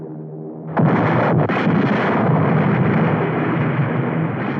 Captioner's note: guns firing